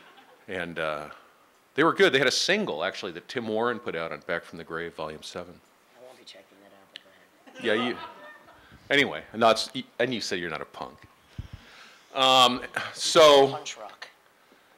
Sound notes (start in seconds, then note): 0.0 laughing; 7.4 laughing